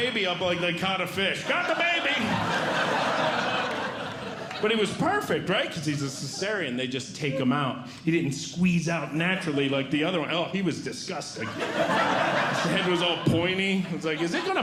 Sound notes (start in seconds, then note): 2.4 audience Laughing; 11.3 audience Laughing